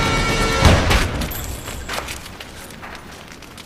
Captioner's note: gun shot